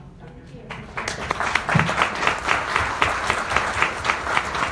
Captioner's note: audience applauds